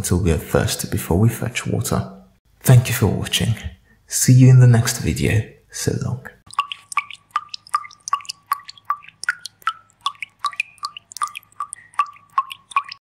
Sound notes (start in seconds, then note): 7.9 falling drops of water